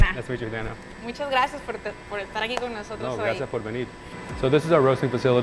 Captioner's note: speakers in foreign language